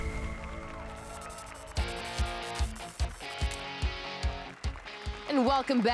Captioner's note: applause and cheers